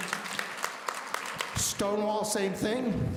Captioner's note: audience applauding